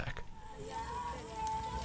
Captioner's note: crying; fire crackling